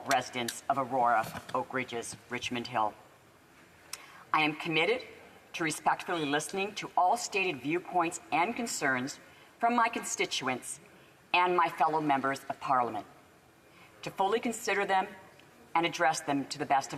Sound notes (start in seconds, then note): none